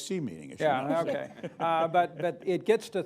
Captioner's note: laughter